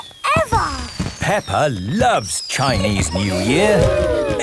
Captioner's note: exclamations